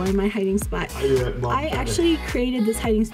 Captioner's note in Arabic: مكتوما يتحدث